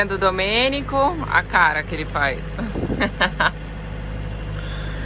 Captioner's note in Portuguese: risos